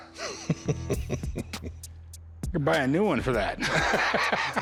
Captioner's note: laughs